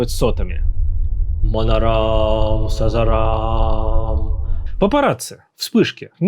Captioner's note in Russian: Странная речь на непонятном языке